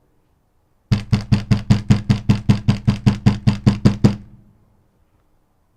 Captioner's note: knocking